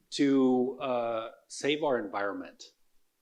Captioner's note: none